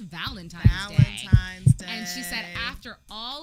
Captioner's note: heart beating